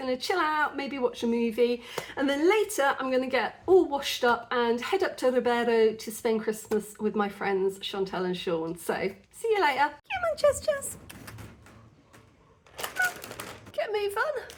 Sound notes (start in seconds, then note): 10.7 rustling Dreamies packet